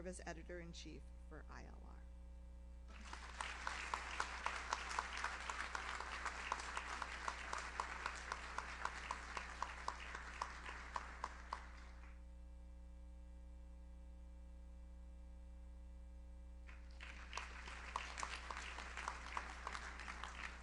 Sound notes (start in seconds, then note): 2.7 audience applauds; 16.7 audience applauds